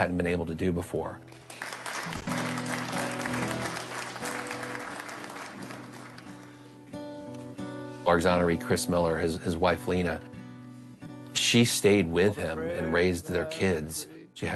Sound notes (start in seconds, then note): 1.3 audience applauds; 6.5 gentle acoustic guitar music